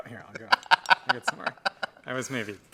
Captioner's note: laughs